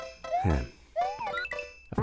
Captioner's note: sigh